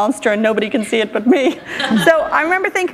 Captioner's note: laughter